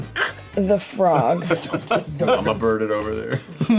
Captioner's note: laughter